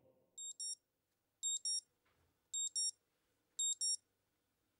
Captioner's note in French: bip de réveil